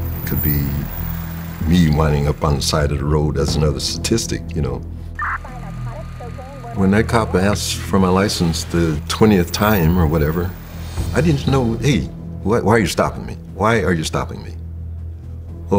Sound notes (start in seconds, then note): 5.2 police scanner chatters